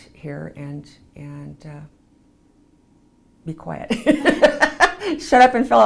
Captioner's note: laughs